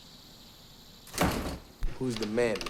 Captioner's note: door slams